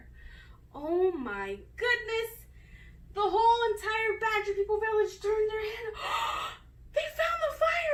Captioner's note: gasp!